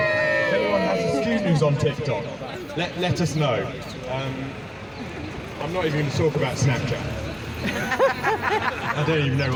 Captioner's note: laughter